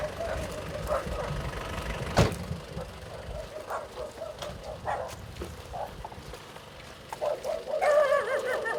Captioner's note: dogs barking